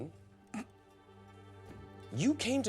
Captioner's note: clears throat